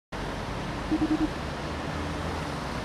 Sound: phone ringing

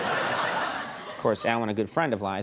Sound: audience laughing

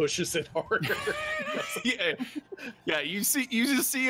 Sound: laughing

